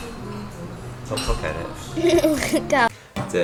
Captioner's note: giggles